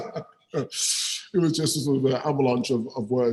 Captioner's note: laughs